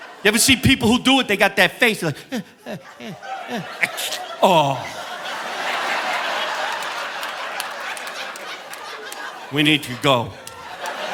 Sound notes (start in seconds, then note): 0.0 audience laughing; 3.8 mimics a sneeze; 5.8 audience laughing